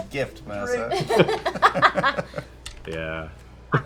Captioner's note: laughs